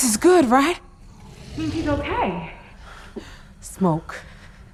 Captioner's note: Stack growling